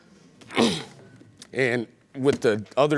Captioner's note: clears throat